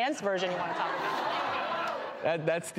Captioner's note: audience hollers